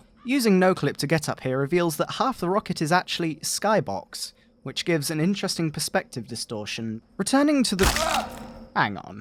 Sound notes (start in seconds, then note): 7.8 a non-heavy scream